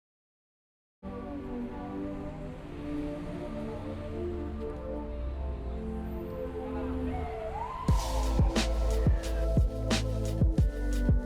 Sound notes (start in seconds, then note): 1.1 gentle music; 7.3 police siren blaring